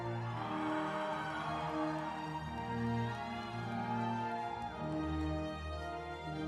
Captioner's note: audience cheering